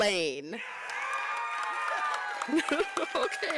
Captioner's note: applause